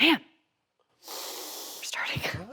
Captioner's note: Jon inhales